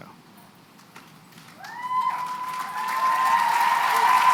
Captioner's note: applause, cheering